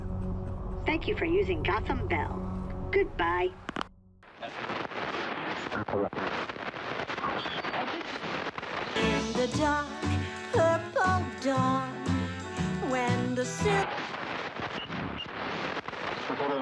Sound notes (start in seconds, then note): 2.9 line disconnects; 4.3 radio static; 13.4 radio static